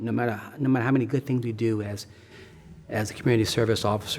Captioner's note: sighs deeply